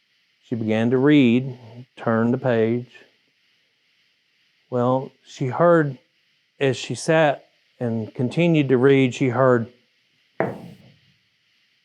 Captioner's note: knock